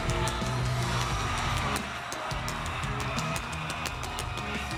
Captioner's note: fireworks crackling